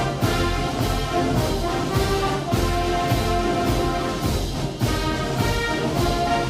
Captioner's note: attendees cheering and applauding